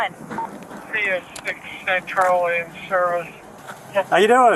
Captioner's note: radio chatter